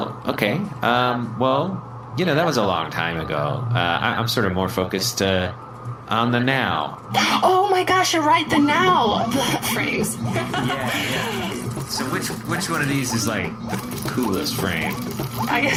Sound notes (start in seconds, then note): 9.2 04K TЯ33 laughs